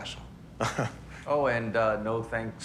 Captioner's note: laughs